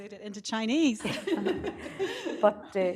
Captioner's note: laughter